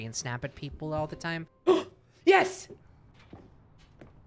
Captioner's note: gasps